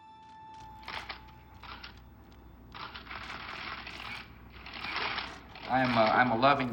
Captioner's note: cameras clicking